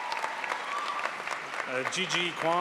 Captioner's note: crowd applauds